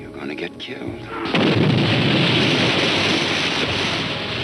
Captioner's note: bomb exploding